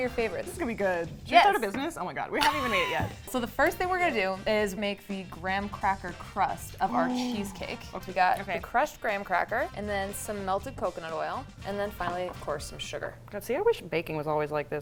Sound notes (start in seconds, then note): 2.4 laughing; 6.9 gasping